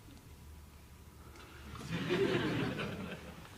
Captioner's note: laughter